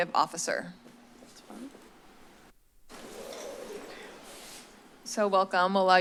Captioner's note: silence